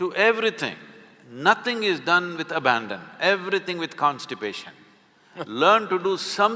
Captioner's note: Karan Johar laughs